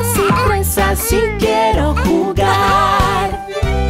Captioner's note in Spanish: Risas; Música alegre